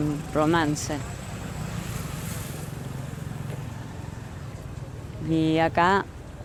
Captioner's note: indistinct chatter